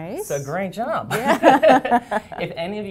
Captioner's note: laughter